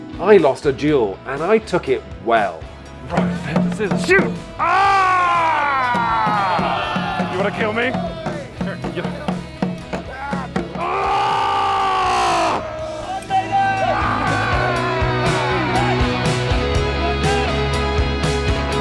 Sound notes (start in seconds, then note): 5.3 yelling; 10.0 screaming; 10.7 upbeat music; 10.7 groaning